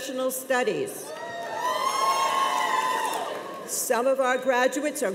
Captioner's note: cheers and applause